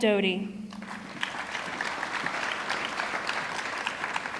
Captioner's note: audience clapping